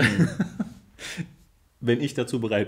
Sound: laughs

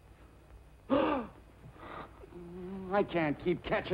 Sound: gasps

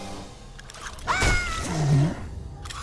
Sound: screaming

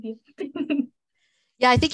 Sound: laughs

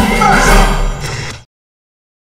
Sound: hulk growls

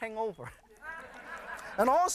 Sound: laughter

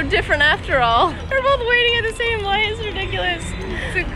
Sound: laughs

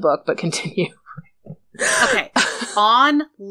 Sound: laughs

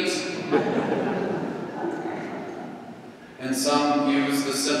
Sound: laughing

